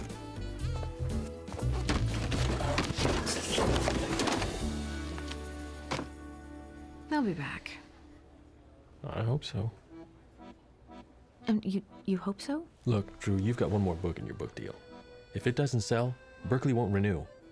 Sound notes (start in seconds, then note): 2.8 books fall; 5.1 book thuds